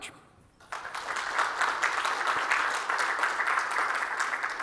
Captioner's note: audience applauding